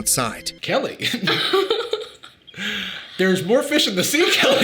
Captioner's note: chuckles; Sadie laughing